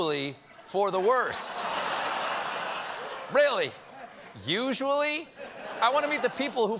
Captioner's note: laughter